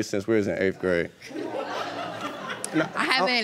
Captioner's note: audience laughing